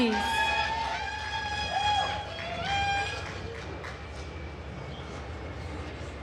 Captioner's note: attendees cheering and applauding